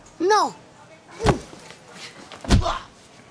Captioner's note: punches and kicks